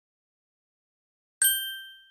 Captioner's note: ding